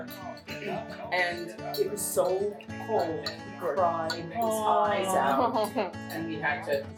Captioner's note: table aww's